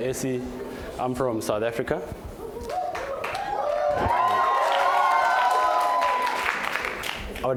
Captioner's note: cheers and Applause